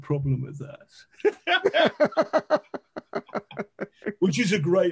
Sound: men laughing

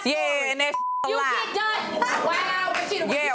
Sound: beep

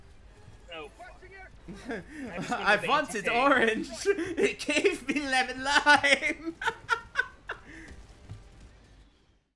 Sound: hahaha

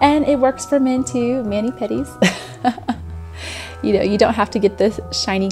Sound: laughs

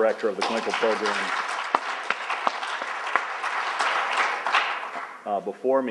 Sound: applauding

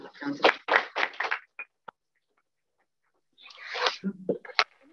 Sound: applause

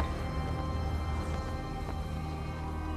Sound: none

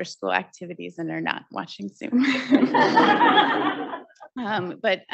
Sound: audience laughing

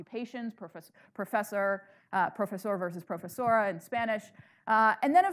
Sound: speaking in foreign language

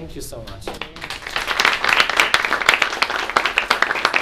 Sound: applause

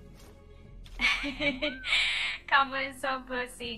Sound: laughs

